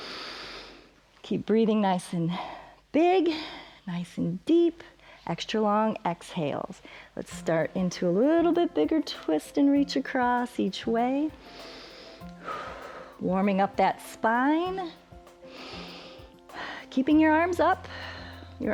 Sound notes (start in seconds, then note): 0.0 inhales; 11.4 inhales and exhales; 15.4 inhales and exhales